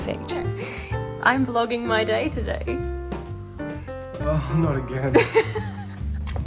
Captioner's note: laughs